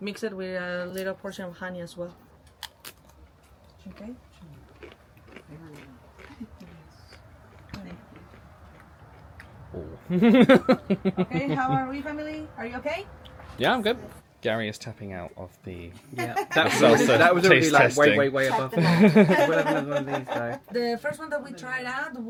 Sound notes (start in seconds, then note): 2.8 tortilla chips crunching; 9.7 laughing